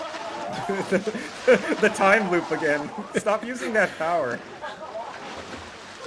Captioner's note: laughs